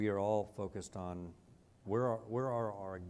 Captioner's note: none